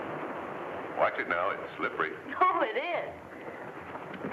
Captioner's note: laughs